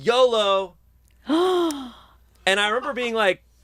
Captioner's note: gasps